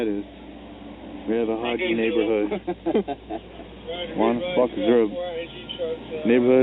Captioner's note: laughs